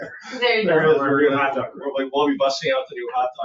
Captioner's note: people chattering